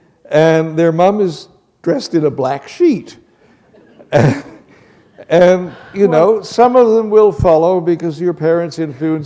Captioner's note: chuckle